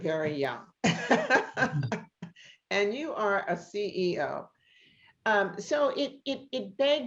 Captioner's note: laughs